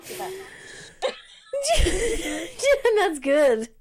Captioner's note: both laugh